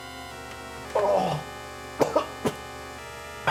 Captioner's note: Ian coughing